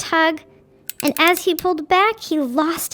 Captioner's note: suspenseful music continues; wrench ratcheting